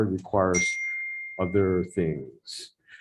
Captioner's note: bell dings